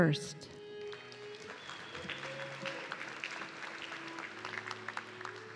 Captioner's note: audience clapping